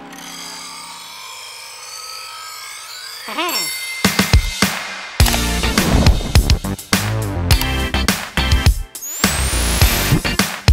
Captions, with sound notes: "PLUS 2 SERVER BOOSTS" [ding!] Boost